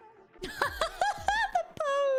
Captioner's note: laughs